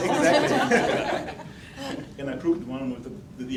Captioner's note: laughing